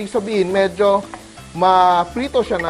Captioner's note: sizzle